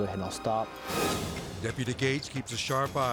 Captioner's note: dramatic whoosh